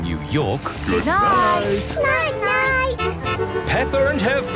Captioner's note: honking